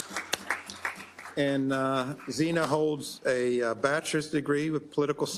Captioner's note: applause